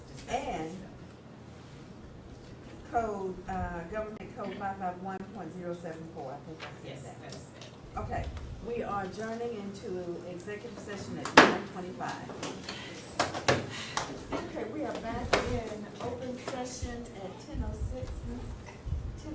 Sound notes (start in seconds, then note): 11.6 gavel banging